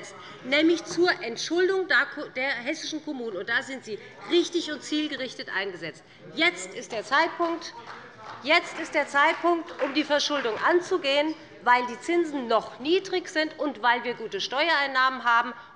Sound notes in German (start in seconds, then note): 7.4 Beifall bei Abgeordneten der CDU